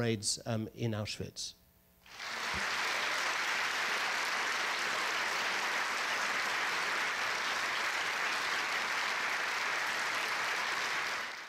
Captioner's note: audience applause